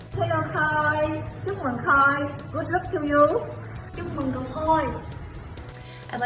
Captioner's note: speaking in foreign language